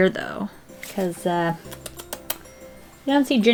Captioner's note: mouth kisses